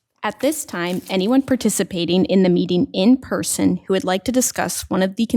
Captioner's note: none